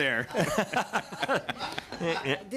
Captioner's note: laughter